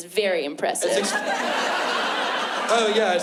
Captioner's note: laughter